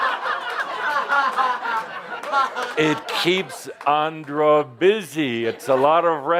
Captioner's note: much laughter